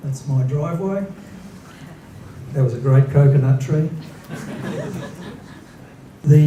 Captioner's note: laughter